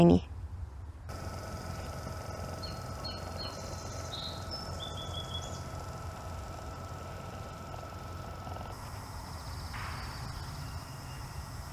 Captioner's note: wheel whirring and birds singing